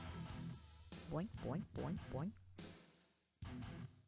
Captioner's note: boink